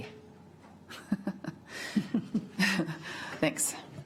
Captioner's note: chuckles